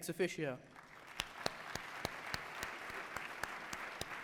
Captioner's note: applause